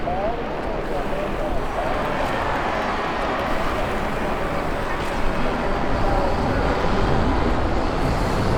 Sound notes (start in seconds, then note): 0.8 helicopter whirring; 2.1 crowd cheering